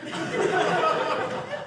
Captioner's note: audience laughing